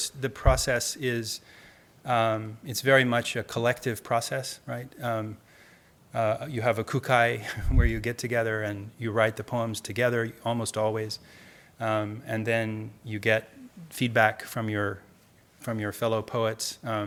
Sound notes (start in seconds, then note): 6.9 speaking in Japanese